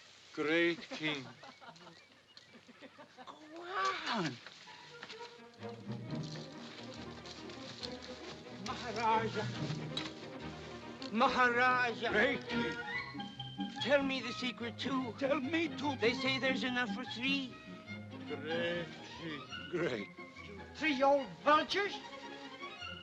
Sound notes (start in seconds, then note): 2.4 Mowgli laughs; 3.8 bushes rustling; 5.3 whimsical music